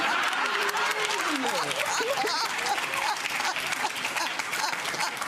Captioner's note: laughing and clapping